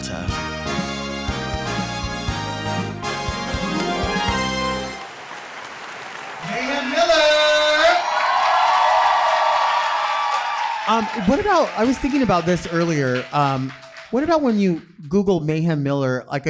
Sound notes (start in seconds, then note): 5.4 canned applause; 8.8 audience applauding